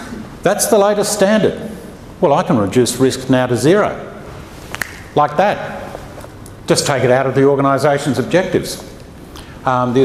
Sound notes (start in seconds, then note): 4.7 clicks fingers